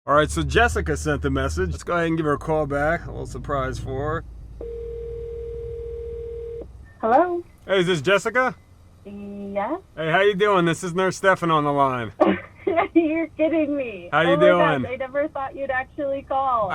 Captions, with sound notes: Alright so Jessica sent a message Let’s go ahead and give her a call back A little surprise for her (phone rings) -Hello? Hey is this Jessica? -Yes..? Hey how ya doin’ this is Nurse Stefan on the line - (laughter) You’re kidding me! - Oh my gosh I never thought you’d actually call